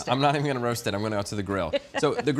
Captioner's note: chuckles